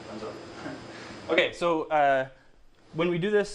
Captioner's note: chuckles